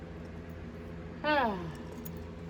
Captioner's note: Caprice sighs